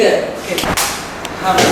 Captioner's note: snap!